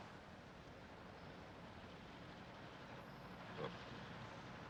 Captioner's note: none